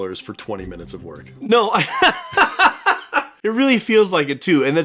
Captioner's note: laughs